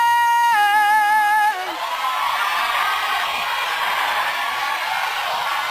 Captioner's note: applause